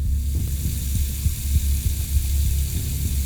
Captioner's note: running water